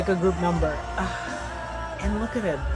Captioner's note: sighs